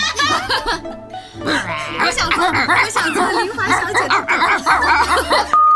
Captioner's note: barking noises